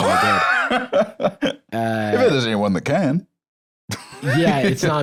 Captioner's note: laughs